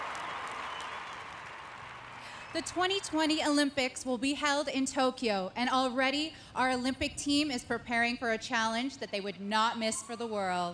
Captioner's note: applause